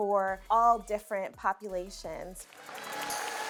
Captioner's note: competitors cheering